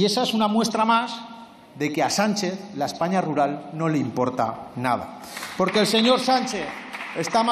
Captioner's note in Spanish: Aplausos